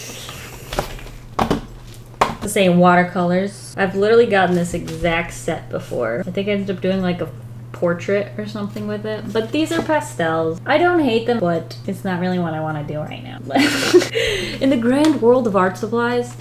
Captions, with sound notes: The same watercolors, I've literally gotten this exact set before. I think I ended up doing a portrait or something with it, but these are pastels. I don't hate them but it's not really what I want to do right now [Laughs] In the grand world of art supplies,